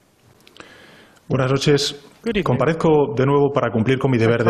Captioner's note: Spanish language